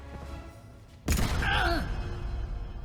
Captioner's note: bang